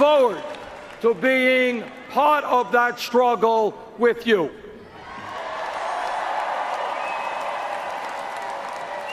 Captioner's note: cheers and Applause